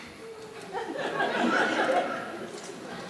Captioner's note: soft laughter